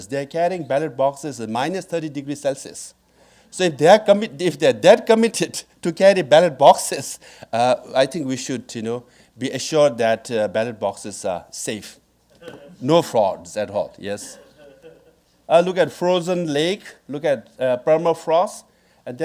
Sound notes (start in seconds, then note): 14.3 audience laughing